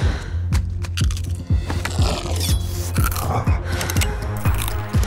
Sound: crunching

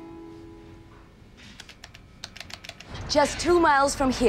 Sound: keyboard clacking

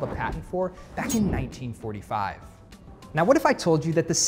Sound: diagram whooshing

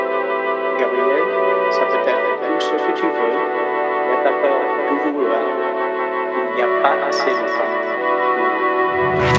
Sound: speaking in french

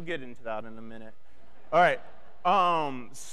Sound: audience laughing

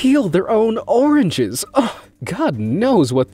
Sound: narrator gasps

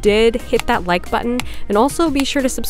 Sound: buttons clicking

